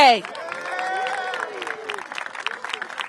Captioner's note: applause